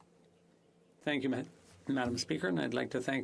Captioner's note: speaking FRENCH